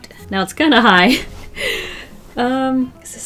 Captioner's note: deep inhale